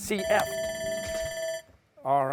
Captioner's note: alarm sounds